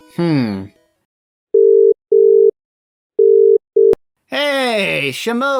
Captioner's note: phone rings